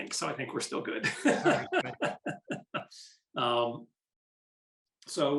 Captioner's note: laughing